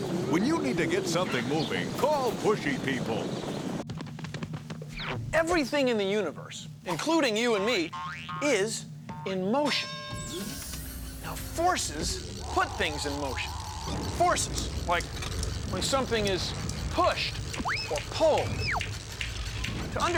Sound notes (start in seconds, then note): 3.4 footsteps; 9.7 bell dings